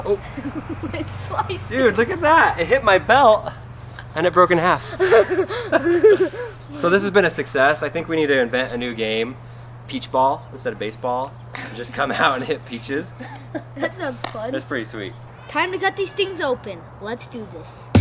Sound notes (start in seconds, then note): 4.6 laugh